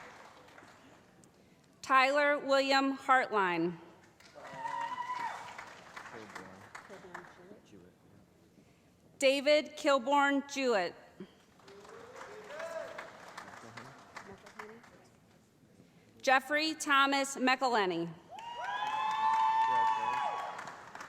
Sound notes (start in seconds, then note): 4.3 cheering; 11.7 shouting; 18.3 cheering